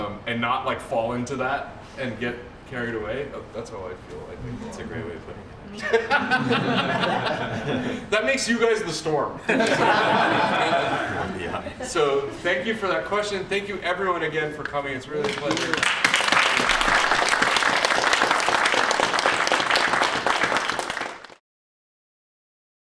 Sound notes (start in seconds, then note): 5.7 laughter; 9.4 laughter; 15.2 applause